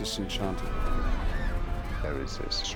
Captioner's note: screaming